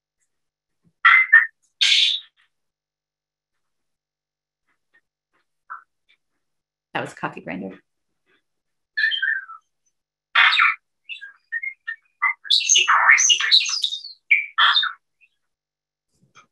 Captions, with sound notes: That was coffee grinder. (bird whistling)